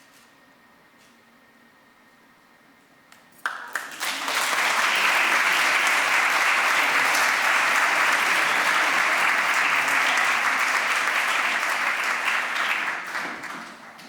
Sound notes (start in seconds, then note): 3.4 applause